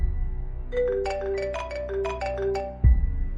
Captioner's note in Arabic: رنين الهاتف